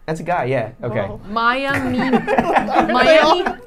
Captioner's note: laughing